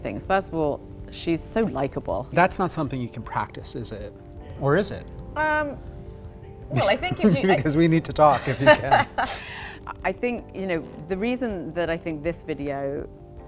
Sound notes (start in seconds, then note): 8.2 both laugh